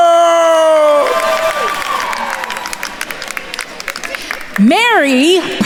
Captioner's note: attendees cheering and applauding